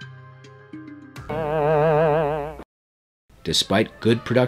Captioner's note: buzz sound effect